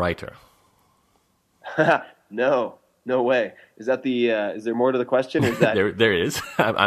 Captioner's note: laughs